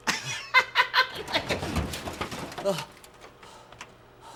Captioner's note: metallic scuffling